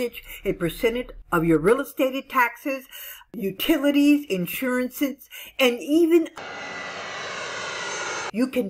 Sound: airplane flying

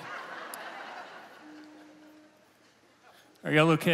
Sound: congregation laughing

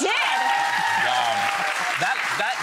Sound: audience cheering

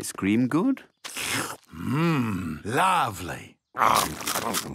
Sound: slurps

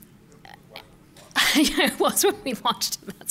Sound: laughs

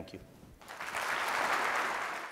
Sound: applause

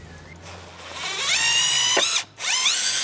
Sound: high-pitched whirring

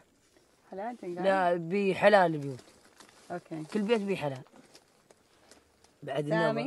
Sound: group speaking in foreign language continues

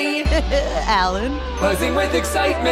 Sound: laughing

